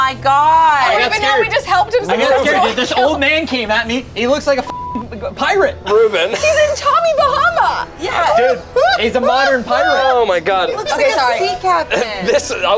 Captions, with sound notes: - Oh my god. - Now we just helped him. - This old man came at me. He looks like a (beep) pirate, Ruben. - He's in Tommy Bahama. - Dude. He's a modern pirate. - Oh my god. - He looks like a sea captain.